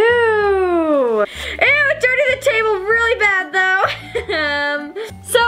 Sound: chuckles

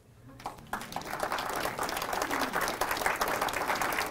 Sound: applause

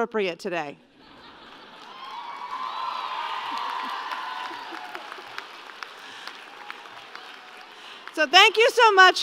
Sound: laughter and applause

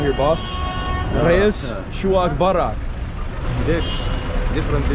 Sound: speaking Arabic

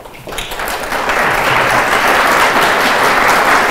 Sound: crowd applauds

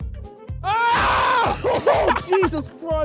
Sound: screams

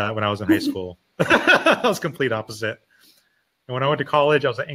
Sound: laughing

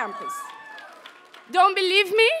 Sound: audience members cheer

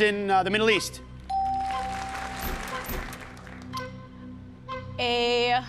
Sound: bell dings

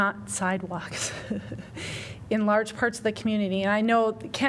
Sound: laughter

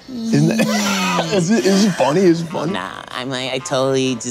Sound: chuckling

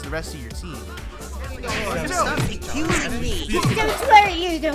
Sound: sounds of fighting and arguing

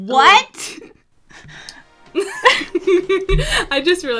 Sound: laughs

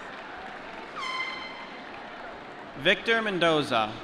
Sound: applause

